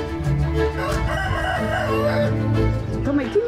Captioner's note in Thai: เสียงไก่ขัน